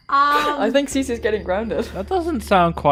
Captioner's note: laughing